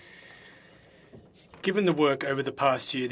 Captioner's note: speaking French